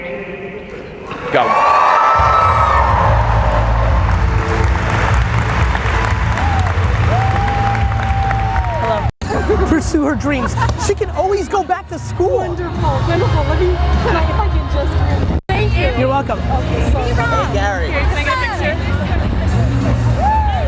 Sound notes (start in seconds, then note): 3.4 audience applause; 3.4 upbeat music